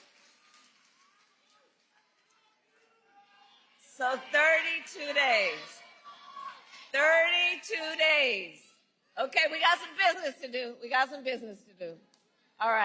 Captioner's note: cheering and applause